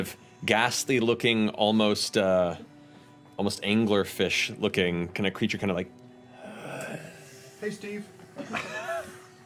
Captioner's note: gasping breathing